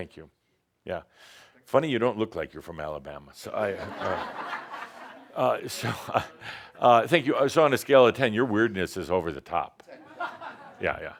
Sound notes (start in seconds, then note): 3.6 laughter; 9.8 more chuckles